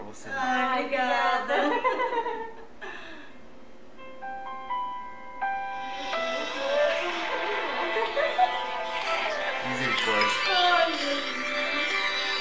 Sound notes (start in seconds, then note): 2.1 laughs; 3.9 phone; 6.3 laughs